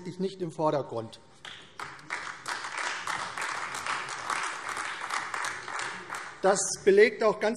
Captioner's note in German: Beifall AfD